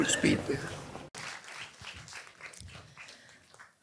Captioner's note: audience applause